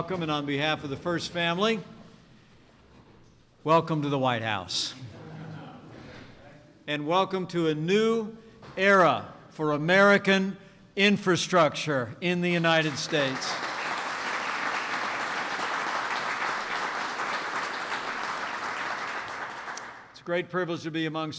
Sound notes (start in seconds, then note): 13.6 applause